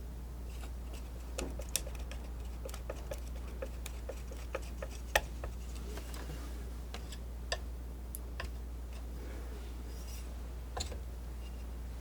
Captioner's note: tapping on tree